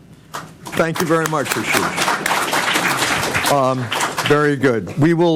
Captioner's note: applause